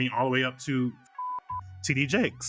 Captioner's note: beep